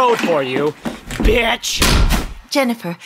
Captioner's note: swish sound, cross-cutting